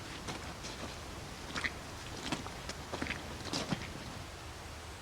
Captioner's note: footsteps crunching